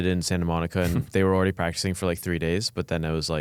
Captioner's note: laughs